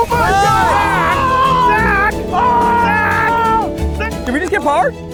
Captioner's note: group cheers